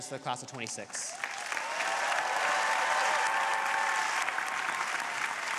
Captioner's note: crowd applauding